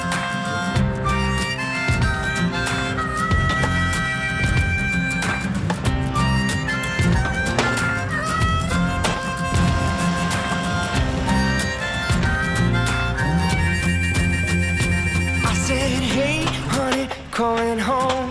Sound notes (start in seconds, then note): 3.3 wood pounding; 10.3 chainsaw buzzing